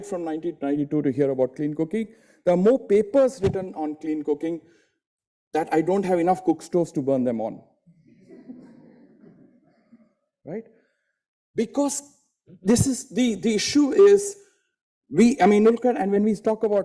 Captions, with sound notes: from 1992 to hear about clean cooking, there are more papers written on clean cooking that I don't have enough cook stoves to burn them on, right. (audience laughing) Because the issue is we, I mean,